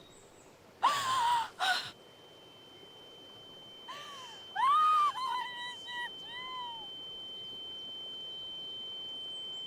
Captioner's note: crying